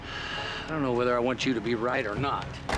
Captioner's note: sighs